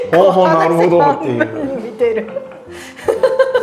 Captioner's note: laughing